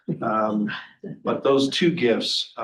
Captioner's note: trustees chuckling